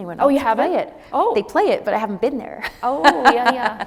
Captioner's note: laughs